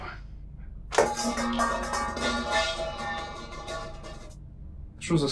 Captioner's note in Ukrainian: гучний звук перевертання миски